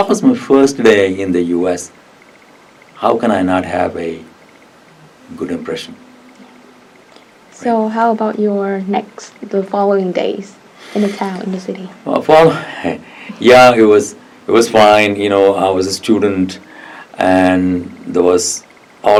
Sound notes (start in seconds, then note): 13.4 laughs